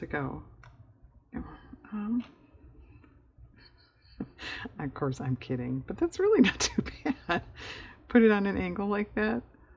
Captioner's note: laughs